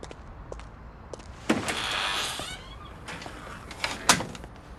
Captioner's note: door creaking